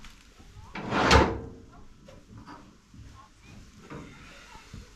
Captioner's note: wind blowing